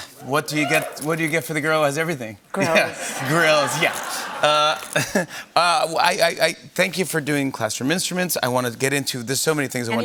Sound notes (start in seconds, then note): 2.6 laughter